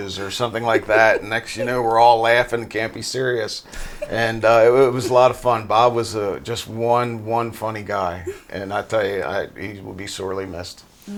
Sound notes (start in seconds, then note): 3.6 laughing